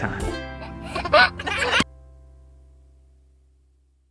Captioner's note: child laughs